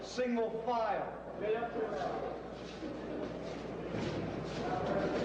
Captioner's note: indistinct chatter